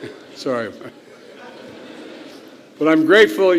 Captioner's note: laughter